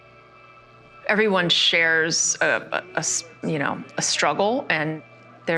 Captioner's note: ambient music; stammers